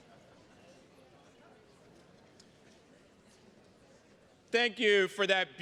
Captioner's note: attendees chattering continues